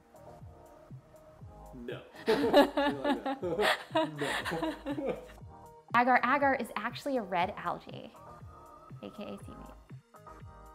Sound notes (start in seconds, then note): 2.2 laughter - is laughing with her brother